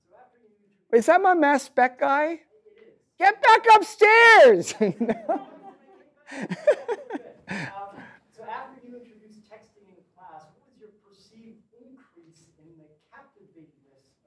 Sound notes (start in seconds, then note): 0.1 man speaks off mic; 2.6 voiceover; 6.2 laughs; 8.4 voiceover